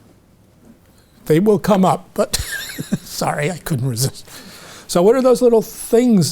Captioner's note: chuckles